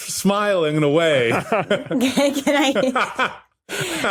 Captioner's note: group laughing